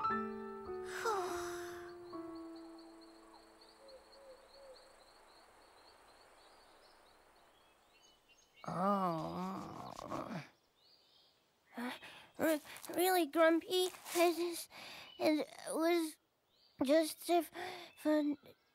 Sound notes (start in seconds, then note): 0.8 sighs; 8.6 groans